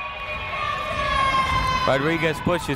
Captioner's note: people shouting in the crowd